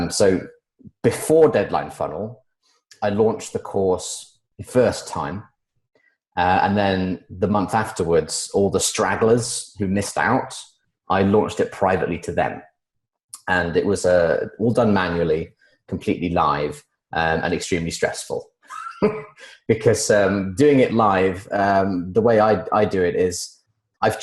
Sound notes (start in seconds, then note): 18.7 laughs